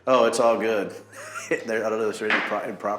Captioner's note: laughing